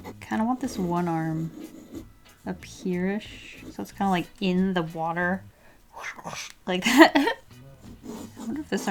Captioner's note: woosh woosh